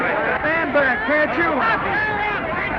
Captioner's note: commotion